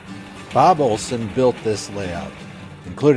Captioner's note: voiceover